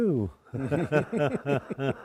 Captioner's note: laughter